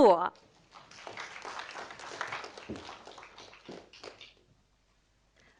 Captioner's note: audience applauding